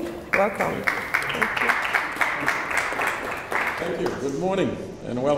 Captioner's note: applause